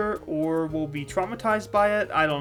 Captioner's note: none